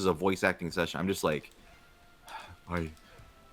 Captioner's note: sighs